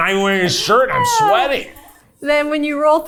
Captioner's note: chuckling